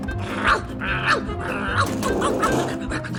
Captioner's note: barking continues